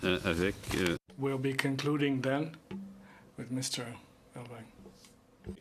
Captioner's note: speaking french